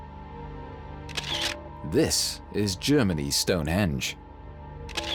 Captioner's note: camera shutter clicks